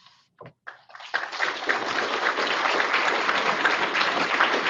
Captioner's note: audience applauding